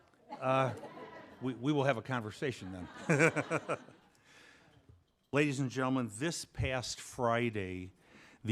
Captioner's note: laughing